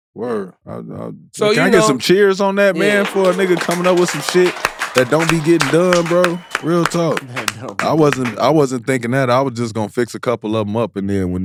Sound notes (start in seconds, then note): 6.5 audience applauding